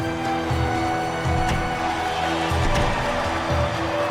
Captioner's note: sounds of rough crowd